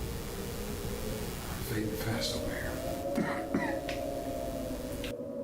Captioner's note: coughs